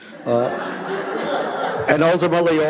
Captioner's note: audience laughing